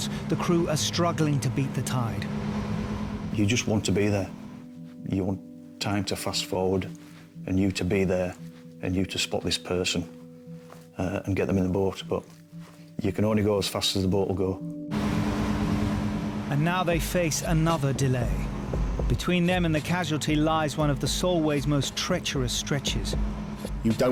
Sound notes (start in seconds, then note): 14.9 boat engine roars